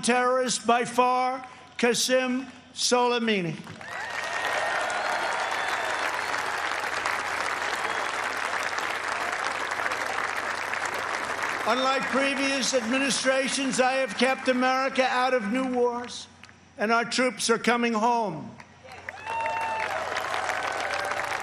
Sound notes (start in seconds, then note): 9.1 applause